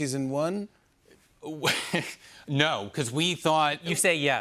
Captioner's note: laughs